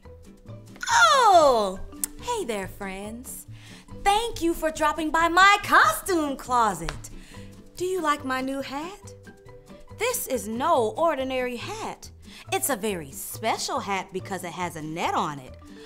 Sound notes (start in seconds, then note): none